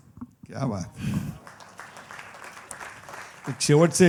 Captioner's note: applause